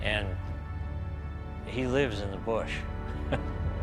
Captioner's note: laughs